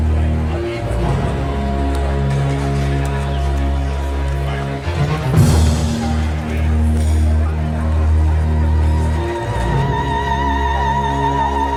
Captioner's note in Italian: Applauso